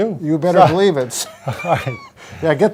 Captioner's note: men laughing